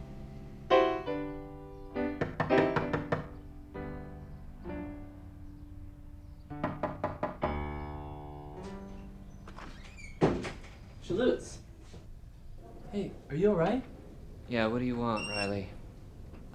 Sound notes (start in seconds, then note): 2.1 knocking at the door